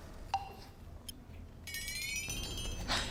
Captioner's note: careful and serious